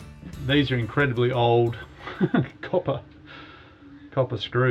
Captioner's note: laughs